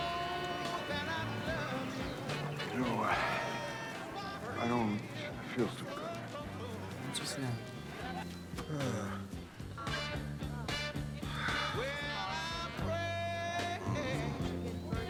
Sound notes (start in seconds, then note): 8.6 sighs